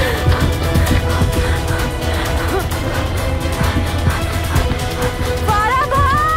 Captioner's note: Gasping